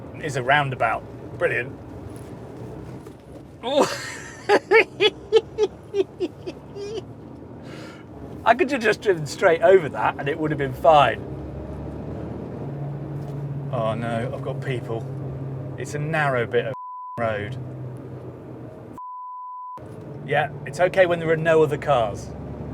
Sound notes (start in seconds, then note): 3.6 laughs